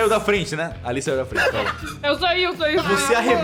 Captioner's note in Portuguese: risada